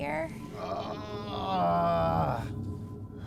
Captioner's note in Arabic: آهات